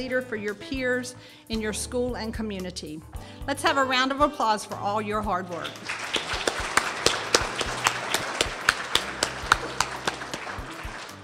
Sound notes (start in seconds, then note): 5.6 audience applauds